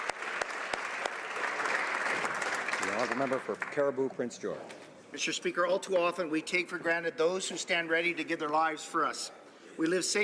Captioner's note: applause